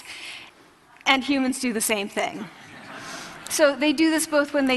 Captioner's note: laughter